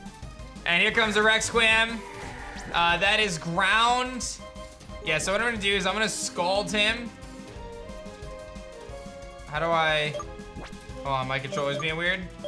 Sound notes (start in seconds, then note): none